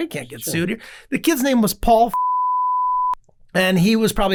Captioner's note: beep